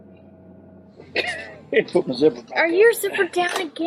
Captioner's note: laughing